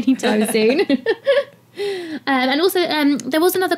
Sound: laugh

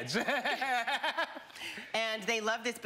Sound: laughing

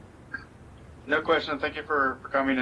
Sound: none

